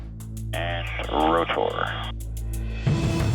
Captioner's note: man On Radio